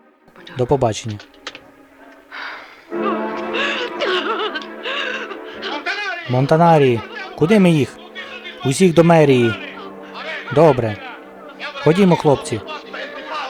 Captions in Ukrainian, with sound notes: До побачення. (ЖІНКА ПЛАЧЕ) < Монтанарі? Куди ми їх? Усіх до мерії. Добрe. Ходімо хлопці.